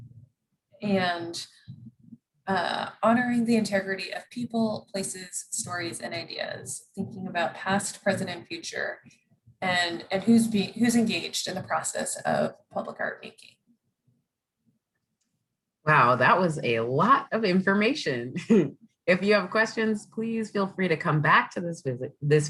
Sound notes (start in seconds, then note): 18.6 laughs